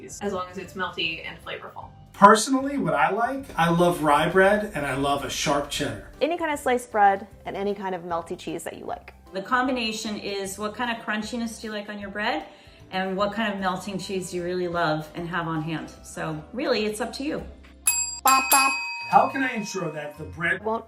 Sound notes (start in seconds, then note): 17.8 ding